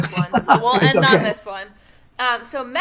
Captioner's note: laughter